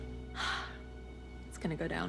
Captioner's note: joyful sigh